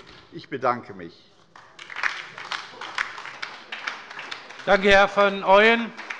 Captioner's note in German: Anhaltender Beifall bei der LINKEN